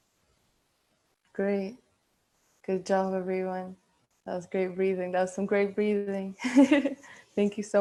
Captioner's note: chuckling